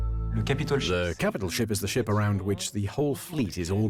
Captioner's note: voiceover